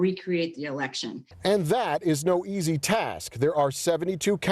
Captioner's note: voiceover